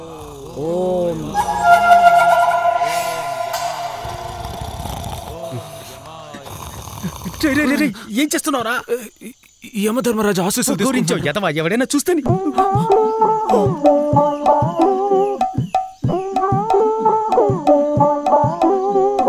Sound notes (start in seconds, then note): 1.6 snoring